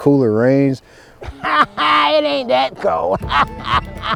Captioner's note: man laughs